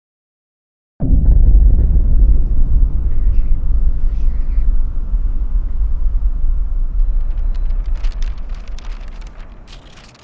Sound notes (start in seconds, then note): 1.0 ominous tones; 1.1 wind blows; 7.0 paper rustles